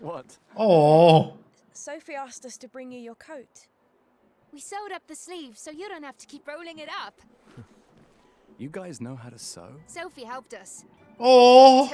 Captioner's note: laughing